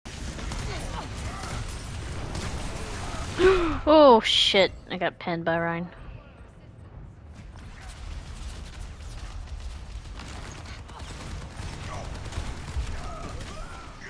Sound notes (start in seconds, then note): 3.4 gasp